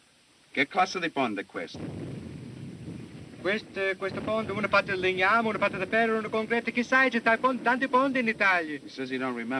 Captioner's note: speaking italian